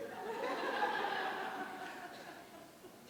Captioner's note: audience laughter